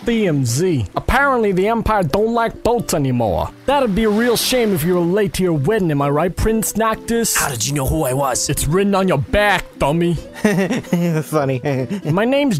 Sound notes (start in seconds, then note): 10.3 Noctis laughs